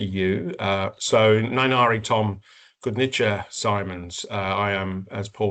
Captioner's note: speaking in Kaurna